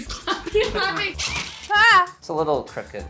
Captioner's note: drill whirling